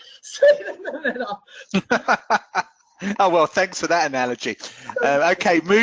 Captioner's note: laughs